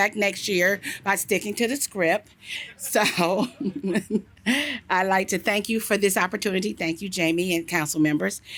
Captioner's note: laughter